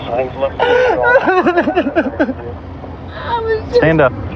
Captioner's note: cryrying